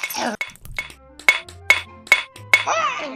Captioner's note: hitting rock with hammer